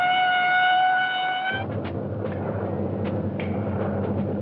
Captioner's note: plane rumbling